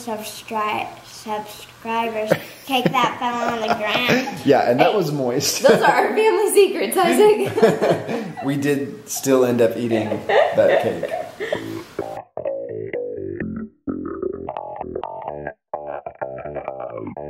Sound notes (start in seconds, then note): 2.7 laughs; 7.0 laughs; 11.4 bouncy dance music